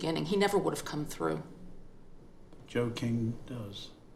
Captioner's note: none